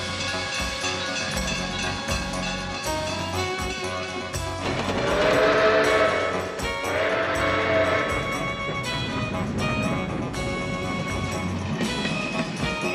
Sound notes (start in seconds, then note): 0.0 train bell clanging; 0.3 dramatic music; 4.8 train horn wailing; 5.3 folksy music